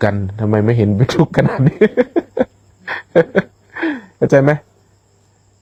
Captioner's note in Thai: เสียงหัวเราะ